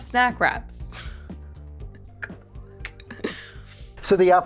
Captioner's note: laughing